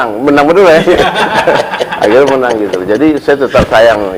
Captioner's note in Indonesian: tertawa